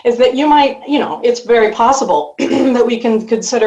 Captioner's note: clears throat